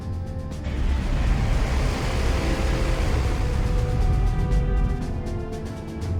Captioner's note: plane blades whirring; patriotic music